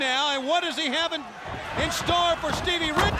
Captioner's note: footsteps plodding; head thudding